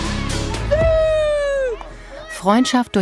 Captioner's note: he screams